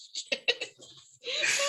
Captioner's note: laughter